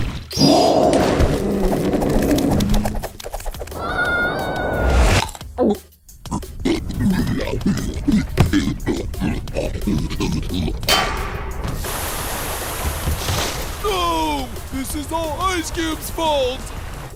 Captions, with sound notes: [SCREAMING] [CHOKING] NOOO! THIS IS ALL ICE CUBE’S FAULT!